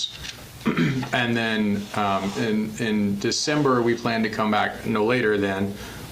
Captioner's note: clears throat